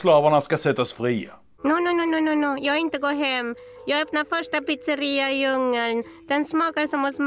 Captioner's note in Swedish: Italiensk brytning